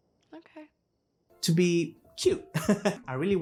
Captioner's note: giggle